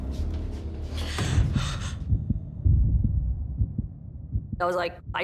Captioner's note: gasps